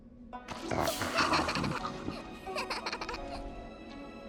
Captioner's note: laughing